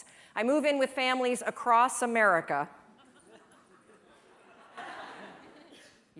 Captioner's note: laughter